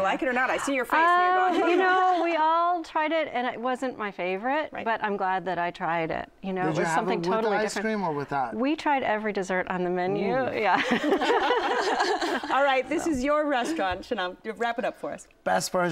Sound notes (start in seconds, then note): 10.7 laughter